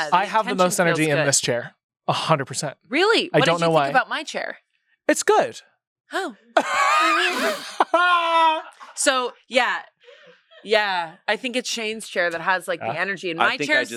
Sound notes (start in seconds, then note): 6.6 laughs